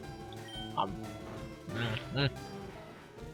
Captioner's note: munching sounds